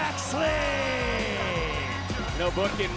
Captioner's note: crowd cheering